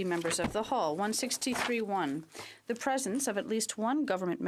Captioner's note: speaking in French